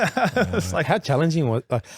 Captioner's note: laughing